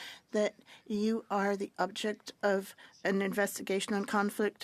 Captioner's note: speaking French